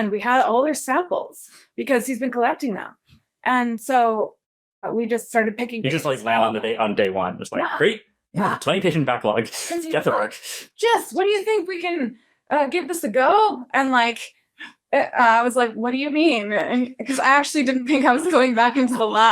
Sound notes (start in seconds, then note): 9.6 laughs